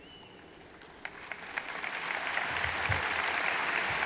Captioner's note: crowd applauds